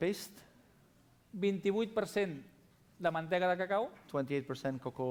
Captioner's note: non-english speech